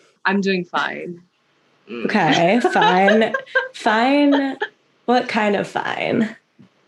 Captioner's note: laughter